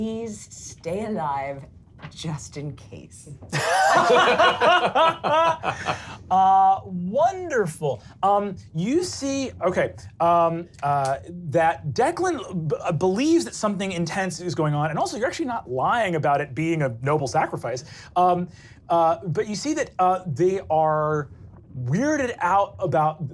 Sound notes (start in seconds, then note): 3.5 laugh